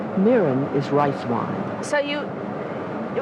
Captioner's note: voiceover